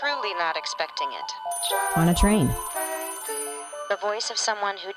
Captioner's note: telephone ringing